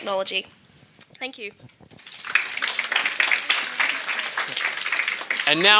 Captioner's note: audience applauding